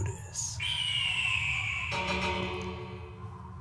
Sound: eagle screeches

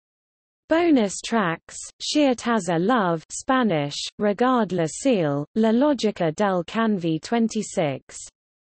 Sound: Spanish

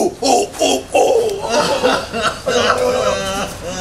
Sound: weeping

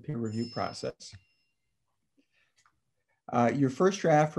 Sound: phone ringing

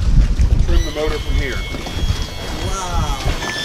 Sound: water splashing; motor lift buzzing

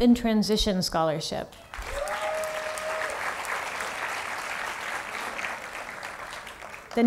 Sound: applause

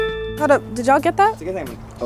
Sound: notification ringing

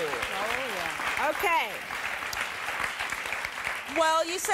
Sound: audience applause

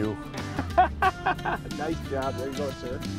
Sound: laughter

